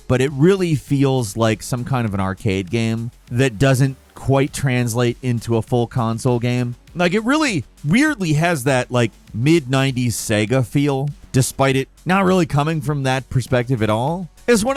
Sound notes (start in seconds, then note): none